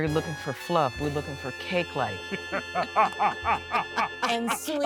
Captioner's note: laughing